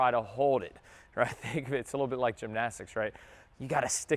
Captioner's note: chuckles